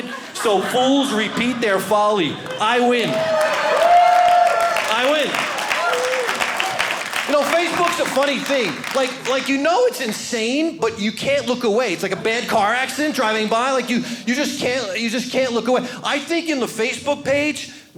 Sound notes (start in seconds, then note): 2.4 audience cheering